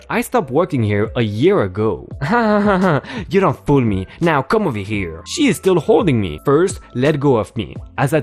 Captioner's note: laugh